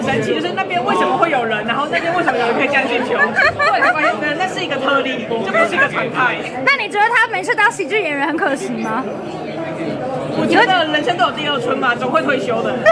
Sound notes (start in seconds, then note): 5.6 laughed hard